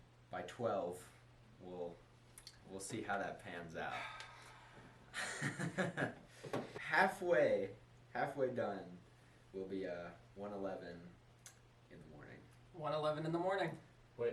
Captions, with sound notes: by 12, wull, we'll see how that pans out *nervous laugh* Halfway Halfway done will be uhh, 1:11 in the morning 1:11 in the morning!